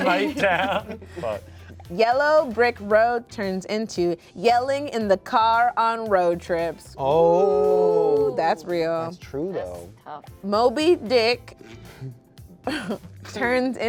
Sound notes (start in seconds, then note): 7.5 cast exclaims; 12.7 laughs